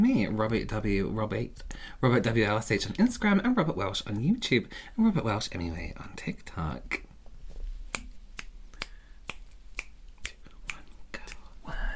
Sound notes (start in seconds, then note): 8.7 finger Snapping